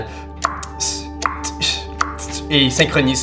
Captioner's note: clock ticking